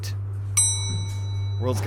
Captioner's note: elevator chime